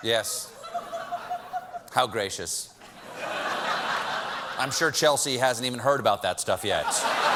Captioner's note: laughter